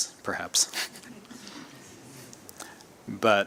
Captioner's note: laughter